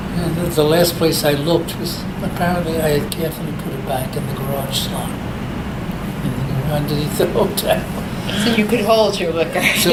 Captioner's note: laughs